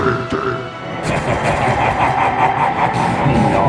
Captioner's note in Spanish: risas